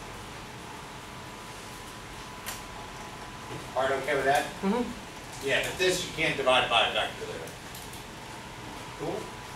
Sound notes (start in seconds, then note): 4.2 speaks softly